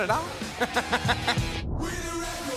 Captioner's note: person laughing